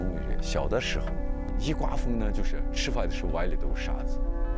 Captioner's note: speaking chinese